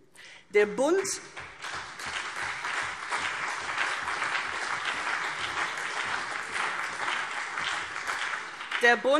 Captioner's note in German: Beifall CDU und BÜNDNIS 90/DIE GRÜNEN